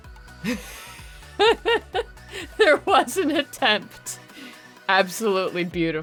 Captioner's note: laughing